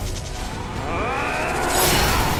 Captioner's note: yelling